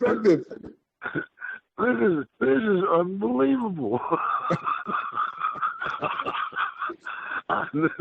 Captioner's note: laughter